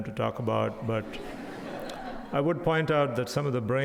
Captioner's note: audience laughs